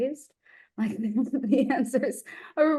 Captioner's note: chuckles